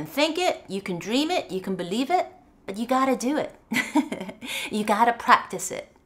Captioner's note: laughs